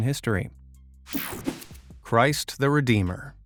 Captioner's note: image whipping effect